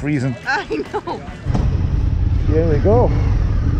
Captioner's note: woman laughs